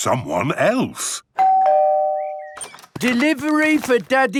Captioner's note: door bell ringing